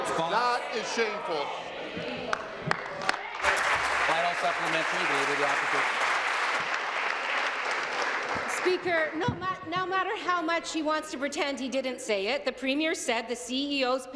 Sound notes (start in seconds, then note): 5.9 applause